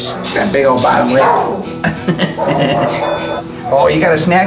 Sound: chuckling

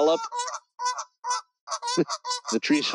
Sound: geese honking

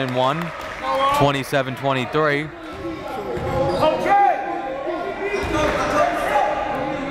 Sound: coaches and fans yelling

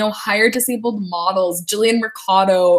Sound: none

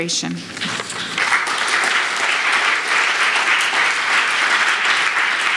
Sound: audience applauds

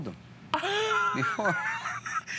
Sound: laughter

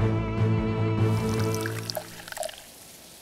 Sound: pouring tea

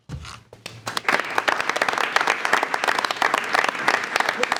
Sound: attendees applauding

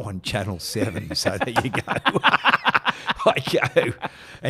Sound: laughing

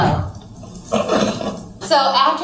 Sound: laughs

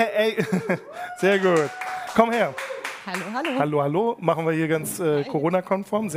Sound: applause

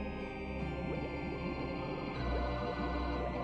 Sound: bubbling

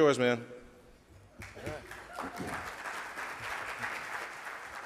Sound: audience applauds

